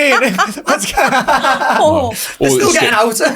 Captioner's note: group laughs